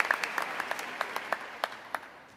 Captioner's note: applause